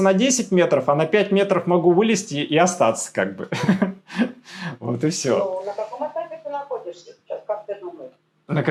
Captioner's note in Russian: смех